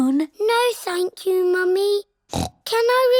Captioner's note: snorts